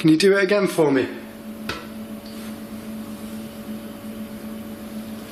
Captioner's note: one knock